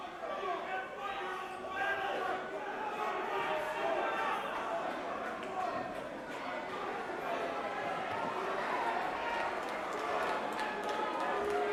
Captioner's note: crowd chatter